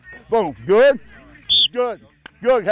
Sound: blows whistle

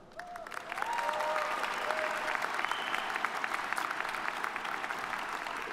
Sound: audience applauding

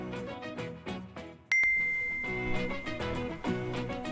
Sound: ding

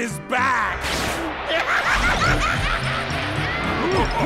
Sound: laughing

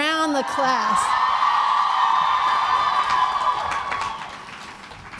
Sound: cheering

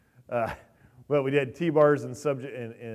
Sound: chuckles

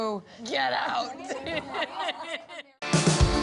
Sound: laughter

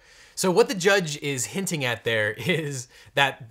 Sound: chuckling

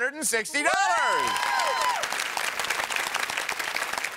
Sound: applause

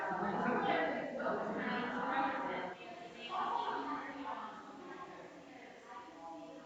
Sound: people chattering distantly continues

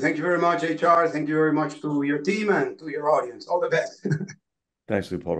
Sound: laugh

